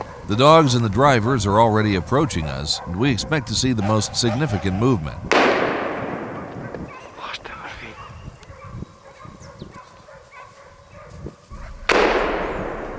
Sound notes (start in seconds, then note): 5.3 gunshot; 11.8 gunshot